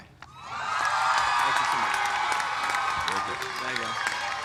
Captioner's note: cheers and applause